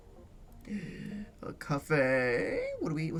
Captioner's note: gasps